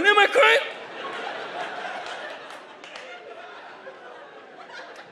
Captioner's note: audience laughs